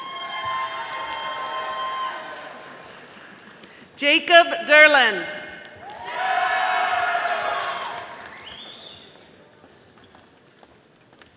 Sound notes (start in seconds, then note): 0.0 audience applauding; 5.8 audience applauding